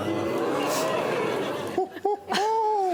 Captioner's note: "ooh"ing